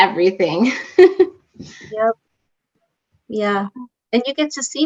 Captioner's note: laughter